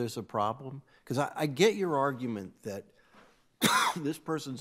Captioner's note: coughing